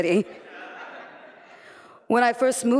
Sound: laughter

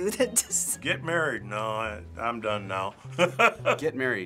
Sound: laughing

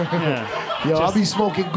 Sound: crowd laughing

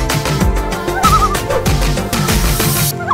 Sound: loon call

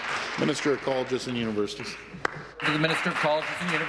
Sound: applause

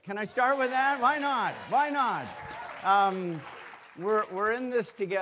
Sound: audience cheering

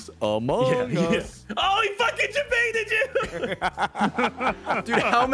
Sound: laughs

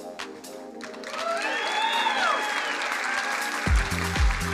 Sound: crowd cheering and applauding; upbeat music

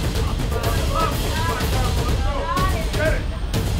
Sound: crowd shouting

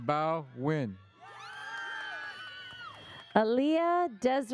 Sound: audience cheers

